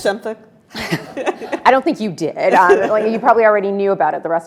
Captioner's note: Elena chuckling